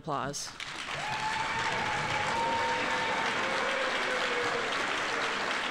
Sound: audience applauding

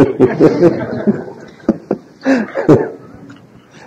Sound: laughs

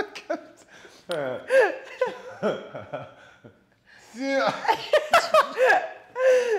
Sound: laugh

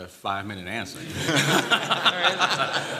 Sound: laughter

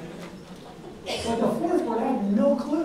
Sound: audience laughs

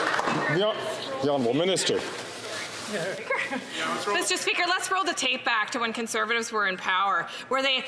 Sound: some Applause

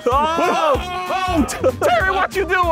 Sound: men yelling

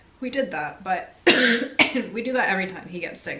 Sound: coughing

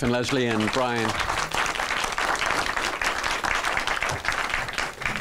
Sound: applause

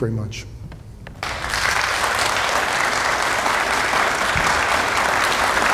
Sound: audience applauding

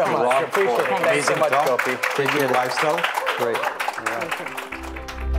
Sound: applause

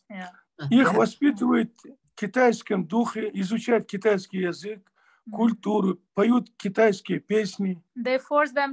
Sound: in Russian

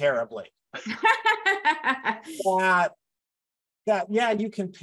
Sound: laughs

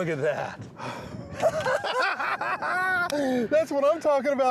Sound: both laughing

